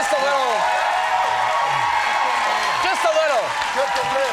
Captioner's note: crowd cheering